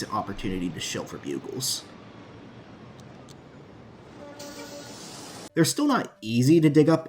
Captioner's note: city Ambience